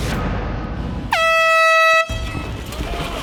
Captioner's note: air horn blares